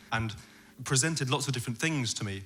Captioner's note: none